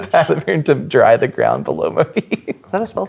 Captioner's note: laughing